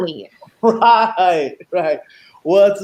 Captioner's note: laughing